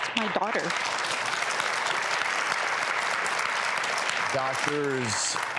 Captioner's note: audience applauds